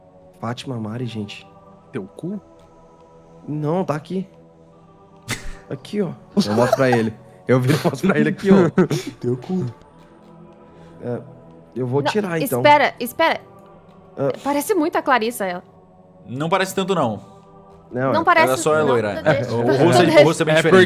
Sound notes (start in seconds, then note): 7.5 laughter